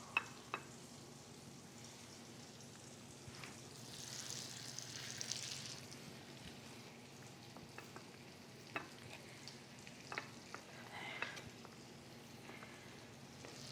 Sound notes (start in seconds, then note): 4.5 meat sizzling